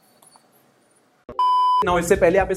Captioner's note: beep